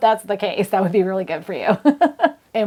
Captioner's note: laughs